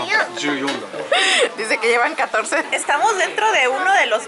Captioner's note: giggles; laughs